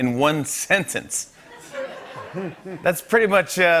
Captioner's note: laughter